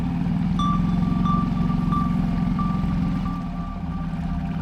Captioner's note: sonar beeping sound